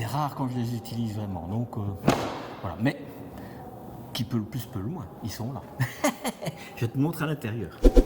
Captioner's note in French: rires